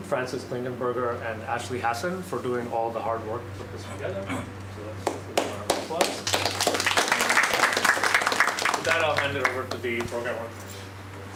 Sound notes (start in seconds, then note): 6.8 applause